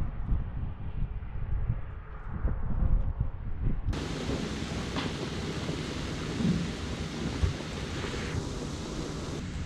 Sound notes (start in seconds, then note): 3.9 vigorous boiling